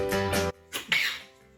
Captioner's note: sneeze